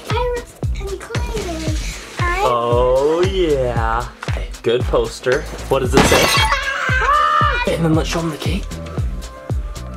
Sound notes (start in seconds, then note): 6.4 scream